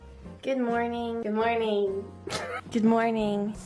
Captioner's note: laughs